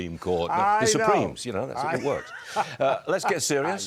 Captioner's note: laughter